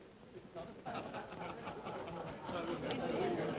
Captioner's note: men chuckle